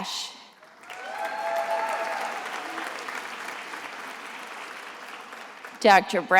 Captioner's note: attendees applauding and cheering